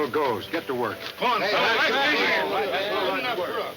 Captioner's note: men shouting